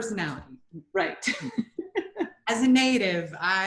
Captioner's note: chuckles